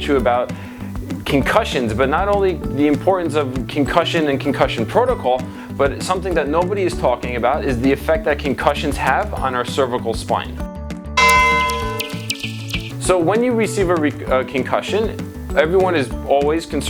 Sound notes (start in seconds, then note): 11.2 bell chimes; 11.8 birds tweet